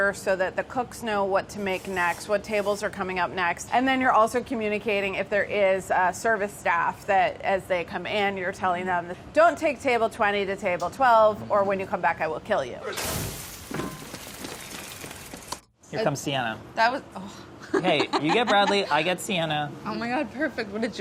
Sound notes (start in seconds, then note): 12.9 sizzling; 14.2 rain smacking; 16.9 sighs; 17.7 laughs